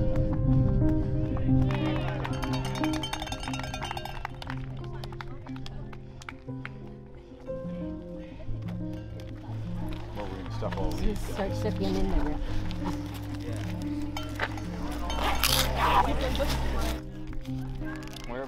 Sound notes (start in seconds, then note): 1.6 spectators applauding; 2.3 bell chiming